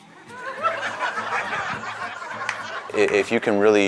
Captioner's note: audience laughing